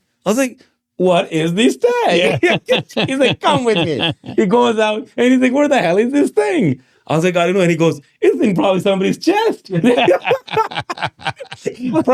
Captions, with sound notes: I was like, "What is the stack?" (laughing) He's like, "Come with me." He goes out and he's like, "Where the hell is this thing?" I was like, "I don't know." And he goes, "It's probably somebody's chest." (laughing)